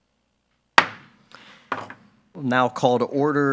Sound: gavel banging

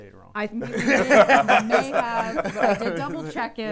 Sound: chuckle

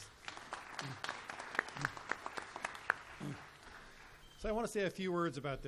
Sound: applause

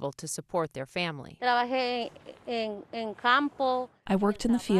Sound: speaking in foreign language

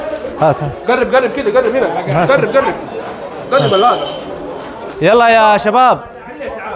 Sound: Arabic

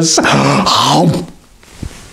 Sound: gulp

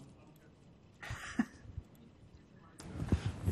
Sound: laughs

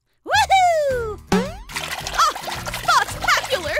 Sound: water trickling

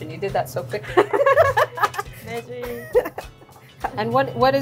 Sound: both laughing hysterically

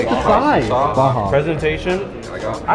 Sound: group chatters in background

